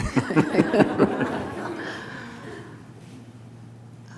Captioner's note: audience laughs